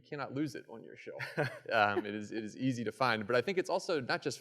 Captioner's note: laughter